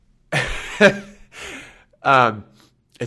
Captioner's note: laughs